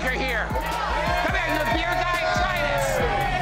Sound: crowd cheering

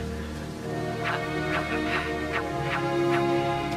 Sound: wooshing

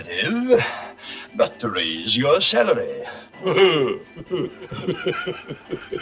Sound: laughing

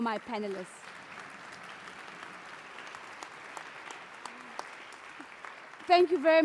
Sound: applause

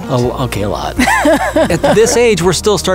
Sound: laughs

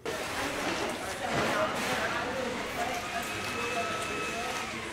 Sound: classroom chatter

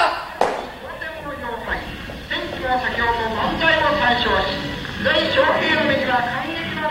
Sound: japanese radio braodcast

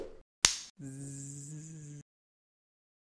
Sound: clap; buzzes

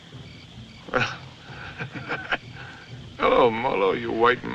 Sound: laughs

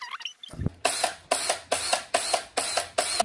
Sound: sound of drill turning

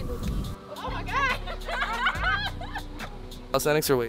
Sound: girls laughing

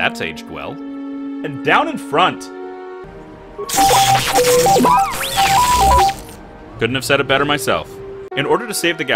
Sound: robot beeping

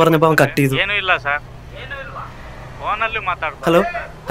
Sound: speaking Kannada

